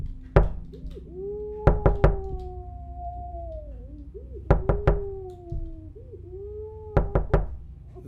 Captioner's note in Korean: 노크소리